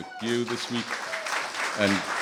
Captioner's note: applause